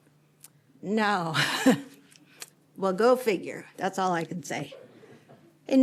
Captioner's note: laughter